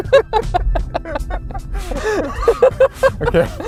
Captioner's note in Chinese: 笑聲